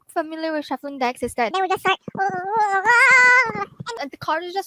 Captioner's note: yelling